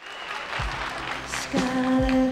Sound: audience clapping

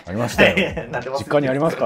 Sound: laughing

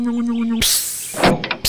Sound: hiss; click

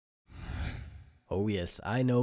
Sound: screen whooshes

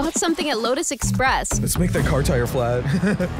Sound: laughs

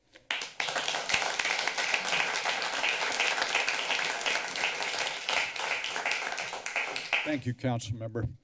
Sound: applause

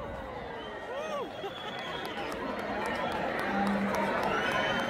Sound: applause

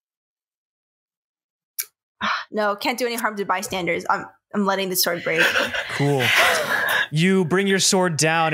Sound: sighs

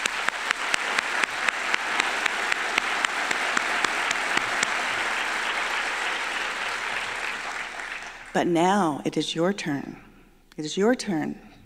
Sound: applause

